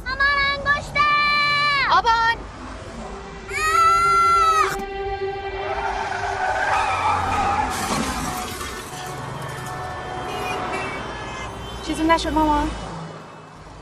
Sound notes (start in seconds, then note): 3.5 child screaming; 6.5 car crashes; 9.4 car horn honking